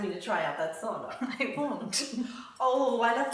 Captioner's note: laughs